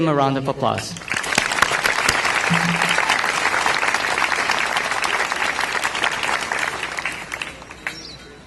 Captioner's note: clapping